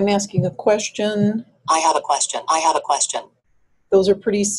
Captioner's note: voiceover